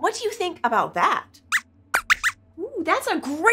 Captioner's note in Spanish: Squeaks chirría